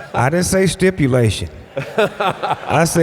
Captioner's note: laughs